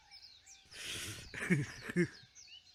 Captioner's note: laughs